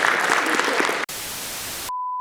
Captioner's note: applause; static